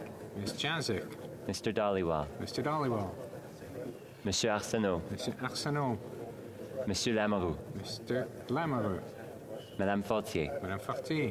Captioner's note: calling of recorded vote